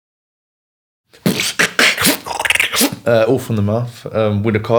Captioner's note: beatboxing